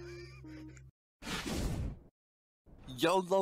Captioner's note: woosh